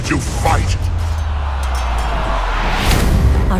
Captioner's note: cheering crowd